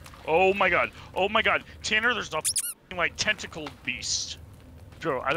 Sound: squeak

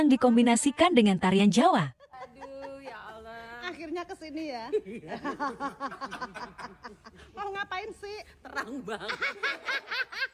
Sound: laughs

